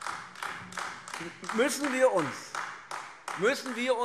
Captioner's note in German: Beifall AfD